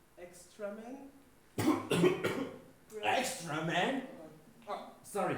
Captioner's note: choking/coughing